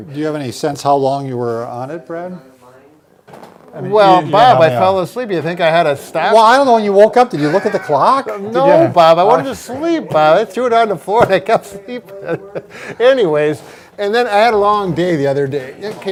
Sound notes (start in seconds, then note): 12.0 laughing